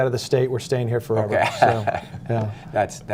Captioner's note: laughter